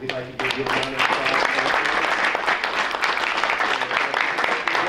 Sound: applause

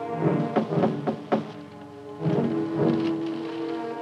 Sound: dramatic rhythmic orchestral music; knocking on door

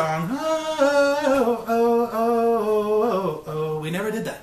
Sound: humming

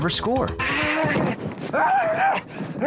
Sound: gasping and grunting

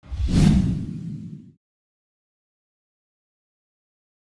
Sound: whooshing sound effects

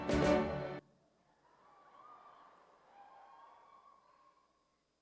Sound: cheering

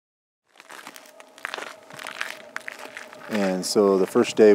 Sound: crunching sounds from walking

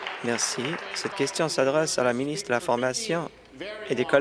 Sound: applause

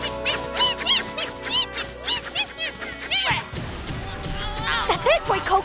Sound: meowing

